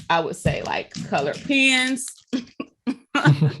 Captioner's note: chuckling